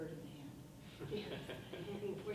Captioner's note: people laughing